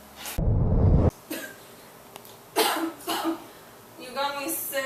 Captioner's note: Leonard coughing